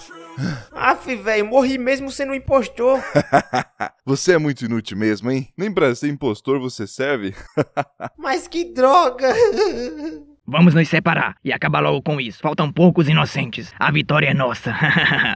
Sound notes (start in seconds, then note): 9.0 crying